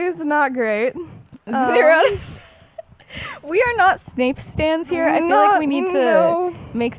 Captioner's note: laughs